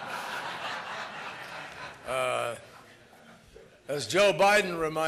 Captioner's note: laughter